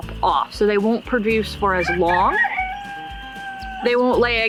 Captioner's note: rooster crows